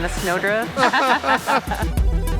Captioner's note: laughs